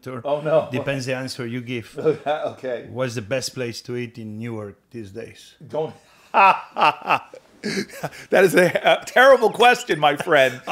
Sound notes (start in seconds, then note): 2.0 chuckles; 7.1 guffaws